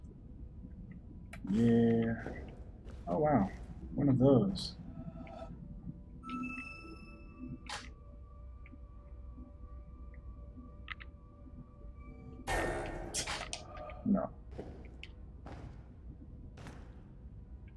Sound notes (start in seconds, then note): 13.1 scoffs